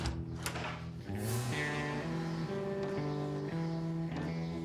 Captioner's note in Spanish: ruido de la puerta